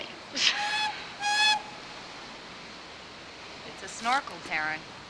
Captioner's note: laughing; train horn tooting